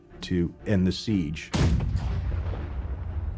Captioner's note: cannon firing